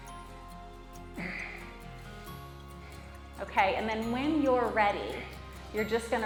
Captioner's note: laugh